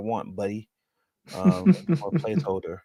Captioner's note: chuckles